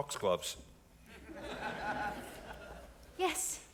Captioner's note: audience laughing